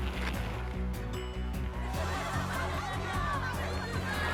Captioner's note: cheers